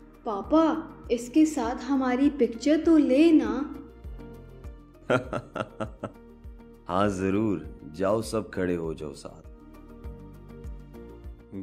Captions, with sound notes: Papa, take a picture of us with him. [Laugh] Yes, of course! Go stand together.